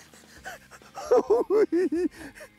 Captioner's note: giggles